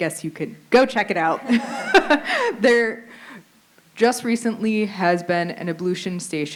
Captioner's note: laughter